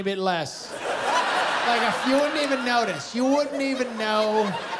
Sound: laughter

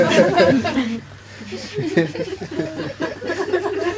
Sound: laughter

